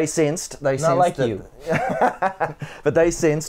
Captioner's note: laughs